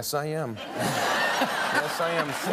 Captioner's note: laughter